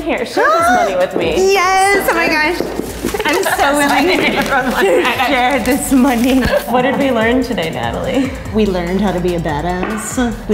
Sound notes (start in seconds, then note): 3.0 laughing